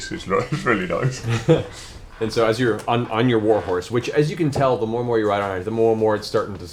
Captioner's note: laughs